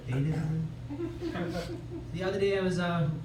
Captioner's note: laughter